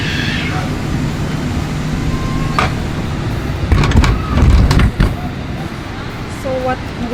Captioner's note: engine whirring; door clicking